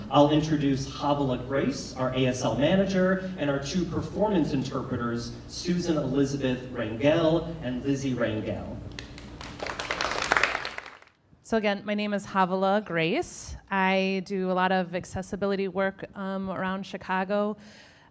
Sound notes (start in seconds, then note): 8.9 audience applauding